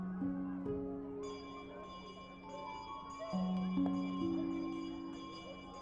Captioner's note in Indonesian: suara lonceng dari jauh